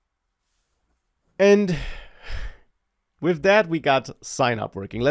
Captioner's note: sighs